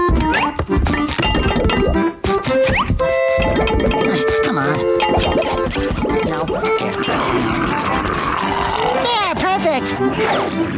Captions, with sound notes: Come on. Nope. [growling] There, perfect!